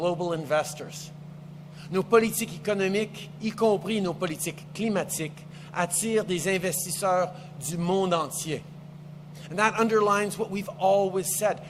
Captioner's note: speaks French